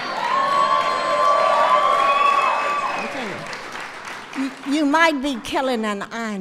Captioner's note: applause